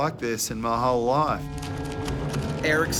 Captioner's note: crunching